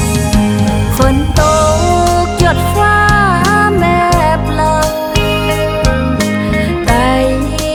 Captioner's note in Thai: ฝนพรำ ฟ้าร้องเสียงดัง